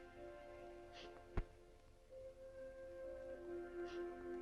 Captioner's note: sniffling